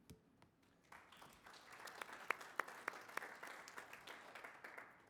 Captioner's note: applause